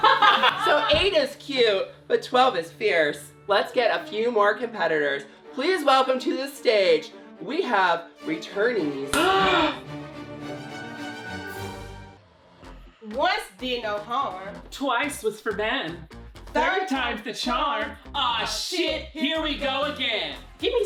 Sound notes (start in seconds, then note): 9.4 gasps